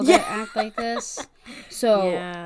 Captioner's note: laughs